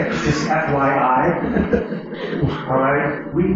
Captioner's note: laughter